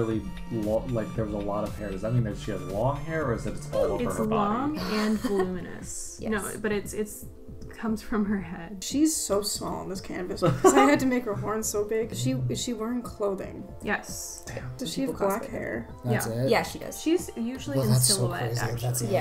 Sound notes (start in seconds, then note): 10.4 laughs